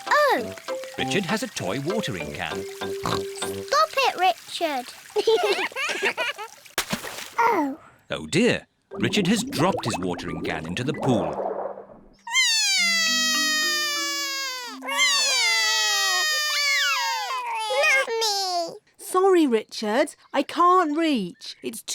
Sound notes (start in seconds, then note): 3.0 oinks; 5.2 both laugh; 12.3 both crying